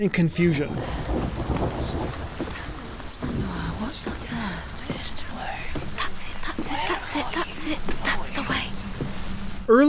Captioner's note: many voices whispering